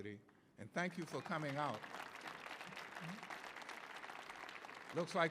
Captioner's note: audience cheering